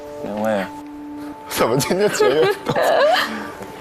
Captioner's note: crying